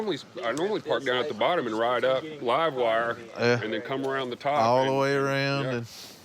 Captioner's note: none